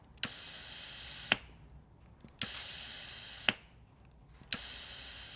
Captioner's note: drill whirring